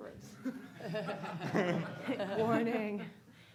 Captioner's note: laughing